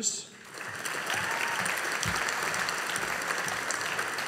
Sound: audience applauding

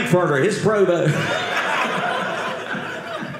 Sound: audience laughing

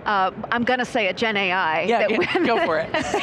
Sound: chuckles

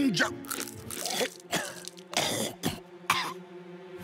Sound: coughing

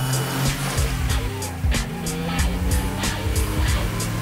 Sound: engines revving

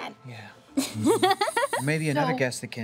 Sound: laughter

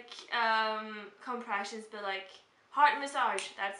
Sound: snaps fingers

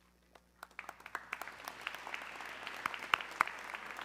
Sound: audience clapping

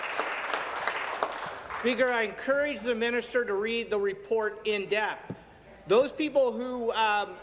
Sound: applause

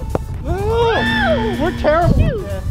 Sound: buzzer

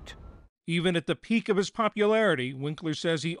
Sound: voice-over

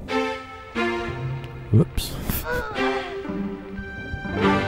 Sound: laughs

